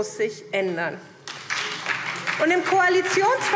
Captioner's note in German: Beifall SPD